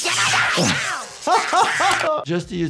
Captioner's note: yelps; laughs